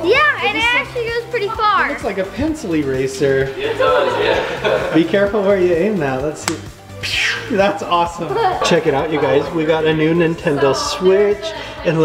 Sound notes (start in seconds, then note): 3.4 chuckles; 6.3 firing